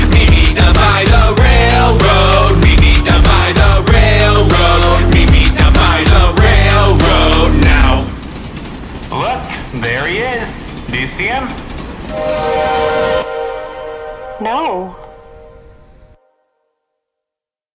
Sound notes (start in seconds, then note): 8.5 cart rattling; 12.1 train whistle blows